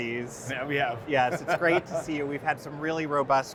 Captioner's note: laughs